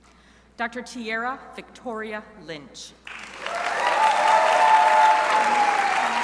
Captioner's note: crowd applauding